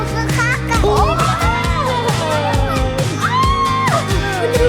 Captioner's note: laughing